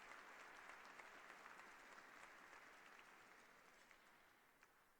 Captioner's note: applause